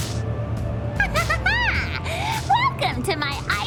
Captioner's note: laughter